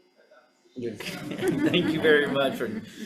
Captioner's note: senators laughing